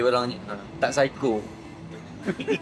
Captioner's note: laugh